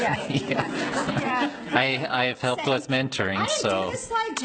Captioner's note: audience laughing